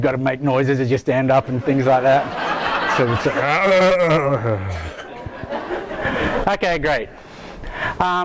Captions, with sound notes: you've gotta make noises as you stand up, and things like that. (audience laughing) (grumbles mockingly) Okay, great.